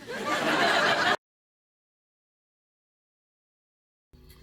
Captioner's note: audience laughing